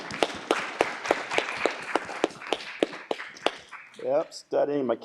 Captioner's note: applause